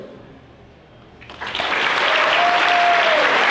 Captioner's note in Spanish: Aplausos